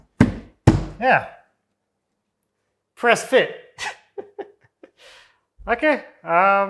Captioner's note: laughs